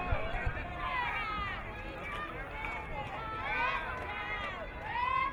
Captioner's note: crowd cheering